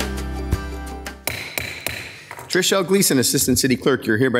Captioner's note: gavel bangs